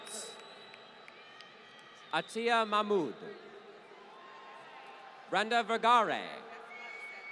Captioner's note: applause